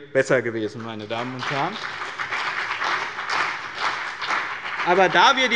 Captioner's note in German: Beifall bei dem BÜNDNIS 90/DIE GRÜNEN sowie bei Abgeordneten der CDU